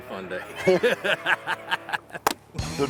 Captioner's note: men laughing